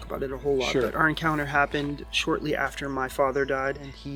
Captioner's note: birds chirping